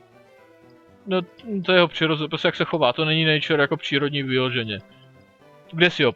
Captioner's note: says nature in Czech